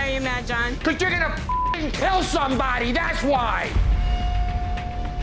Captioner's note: beep